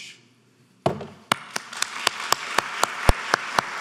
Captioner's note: applauding